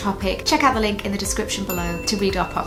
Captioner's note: ding